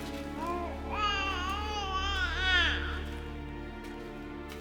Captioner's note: baby cries